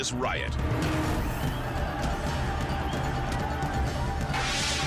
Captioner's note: fans screaming